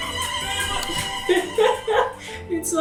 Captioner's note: laughs